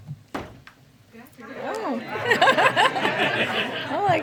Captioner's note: laughter